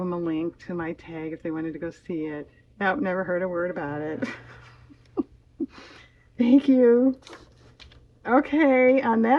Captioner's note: laughs